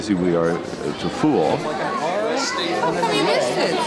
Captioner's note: chatter